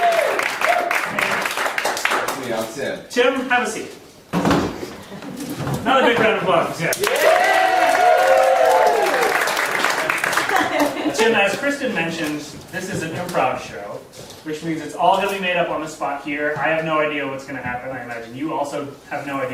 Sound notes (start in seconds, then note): 6.9 audience applauding